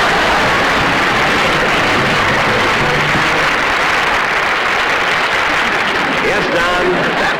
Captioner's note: audience Laughing; audience Applauding